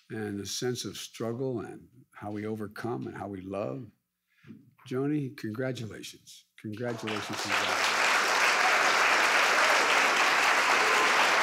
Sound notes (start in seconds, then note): 6.8 audience applause